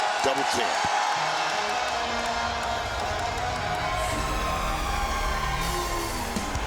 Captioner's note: crowd cheers